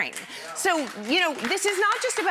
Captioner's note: audience cheers